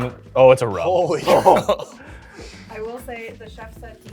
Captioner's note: laughing in Worry